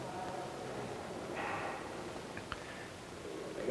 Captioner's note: slurping